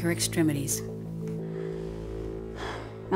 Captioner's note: sighs